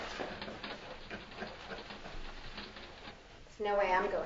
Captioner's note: laughing